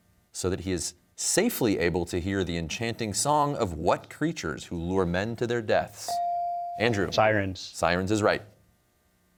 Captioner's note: none